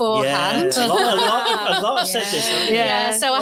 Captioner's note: audience laughs